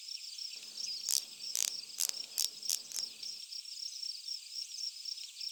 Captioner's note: camera clicking